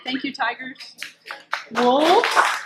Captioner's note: clapping